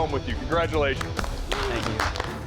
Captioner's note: applause